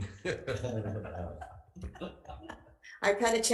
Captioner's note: all giggling